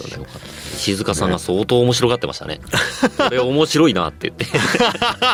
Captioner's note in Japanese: 笑い